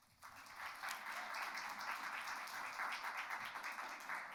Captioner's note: audience applauds